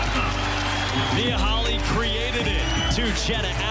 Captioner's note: crowd cheers